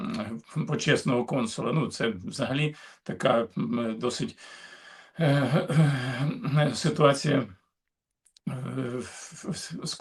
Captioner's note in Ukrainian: прочищення горла